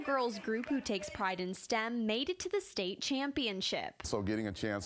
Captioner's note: cheers and applause